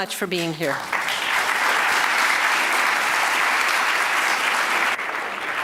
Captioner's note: audience applauding